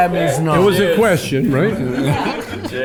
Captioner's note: group laughs